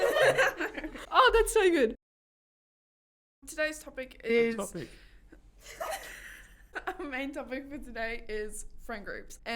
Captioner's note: laughter; laughter